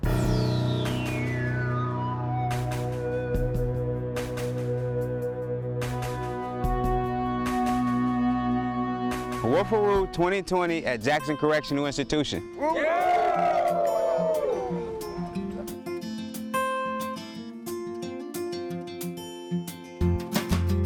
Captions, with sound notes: [dramatic music] - Woofaroo 2020 at Jackson Correctional Institution. [inmates cheering] [uplifting acoustic guitar]